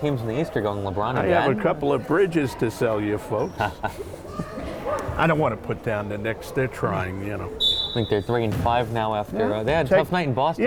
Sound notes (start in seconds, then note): 3.5 laughter